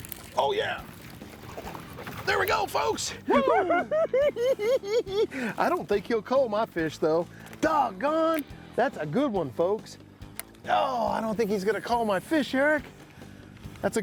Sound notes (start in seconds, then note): 3.9 cackling